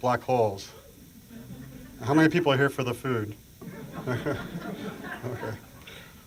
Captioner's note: laughter